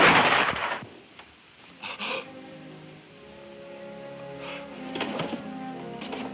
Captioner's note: gun firing; somber music; Doc gasping